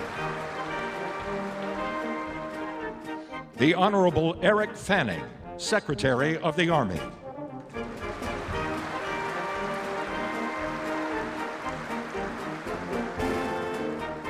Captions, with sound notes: The Honorable Eric Fanning, Secretary of the Army. (applause)